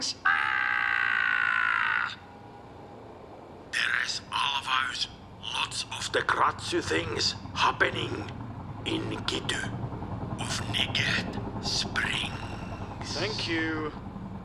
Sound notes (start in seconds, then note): 0.1 screams; 4.5 with a heavy accent